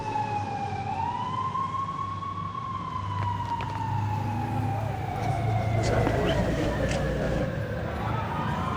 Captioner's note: siren wailing